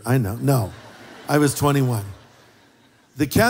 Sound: laughter

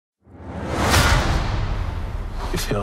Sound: clank

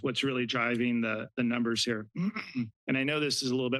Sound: clears throat

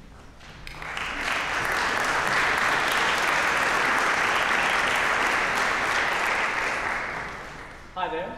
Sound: applause

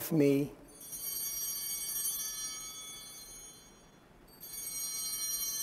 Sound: bell ringing

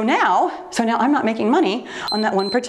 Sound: timer beeps

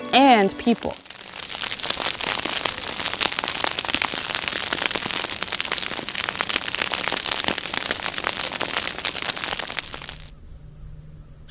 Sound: sawgrass burning

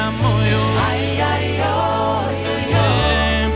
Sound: chant

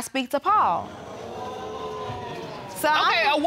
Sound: audience groaning

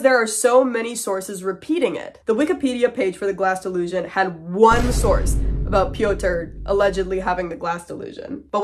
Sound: boom

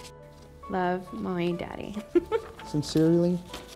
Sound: laughs

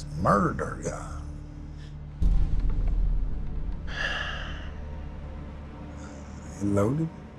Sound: sighs

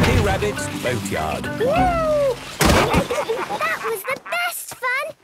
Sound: bangs

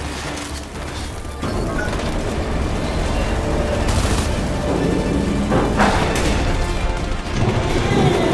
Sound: gunfire

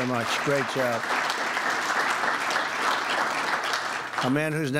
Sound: applause

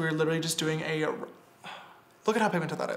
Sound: sighs

